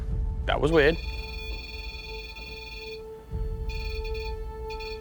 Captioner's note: beeping; ominous music